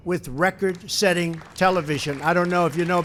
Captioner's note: applause